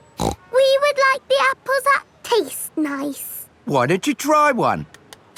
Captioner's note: snorts